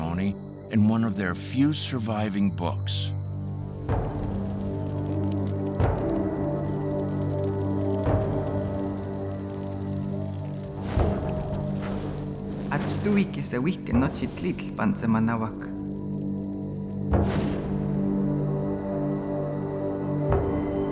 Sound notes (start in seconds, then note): 7.3 fires crackling; 10.9 fires extinguishing; 13.5 speaking Nahuatl